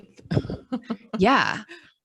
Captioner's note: speaker laughing